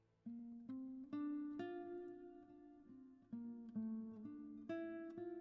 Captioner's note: none